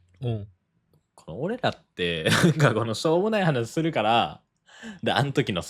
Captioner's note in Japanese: 笑い